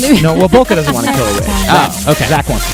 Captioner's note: laughs